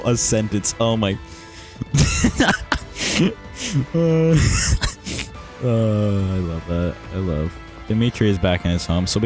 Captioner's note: cringe laughter